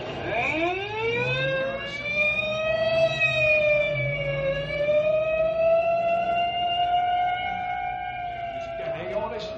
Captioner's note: siren wailing